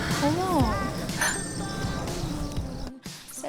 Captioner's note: twinkling~